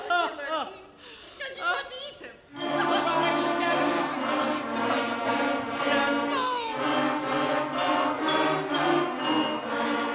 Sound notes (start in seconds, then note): 2.5 actors chattering